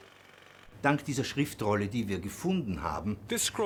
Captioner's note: speaking German